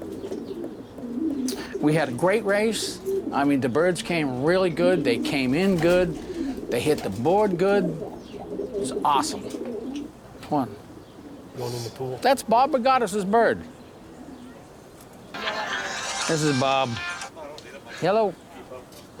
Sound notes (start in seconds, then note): 15.3 phone ringing